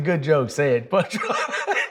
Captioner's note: laughs